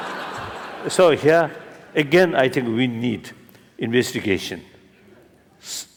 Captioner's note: laughter